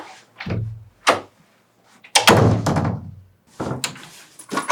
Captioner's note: sound of opening and closing a door